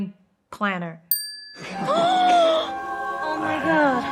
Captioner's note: bell dings